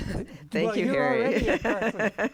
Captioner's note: laughs